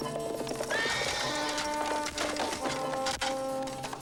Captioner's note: horse neighing